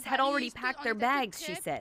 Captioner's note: speaking Foreign Language